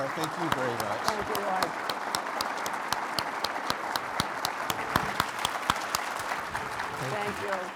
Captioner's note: audience applauding